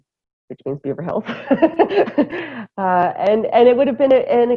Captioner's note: laughter